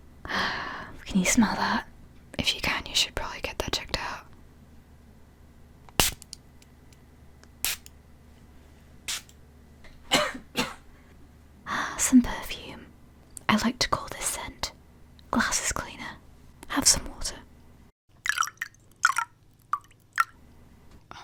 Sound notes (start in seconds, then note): 10.0 coughing; 18.2 water sounds